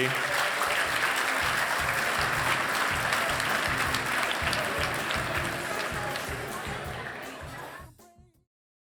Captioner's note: applause